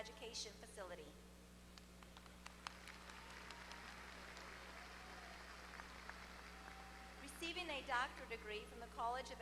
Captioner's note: applause